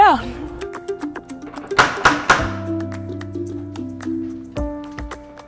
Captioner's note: knocking on door